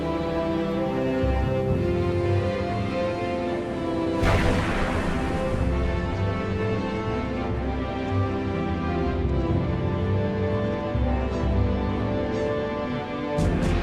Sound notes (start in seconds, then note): 4.2 cannon booms